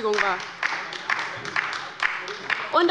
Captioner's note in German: Beifall bei der LINKEN und der SPD